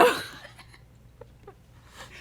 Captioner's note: laughter